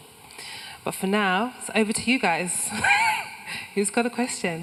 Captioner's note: laughs